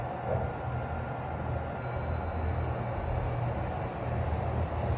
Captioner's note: chime